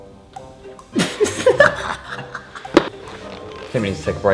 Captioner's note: cringe laughing at own joke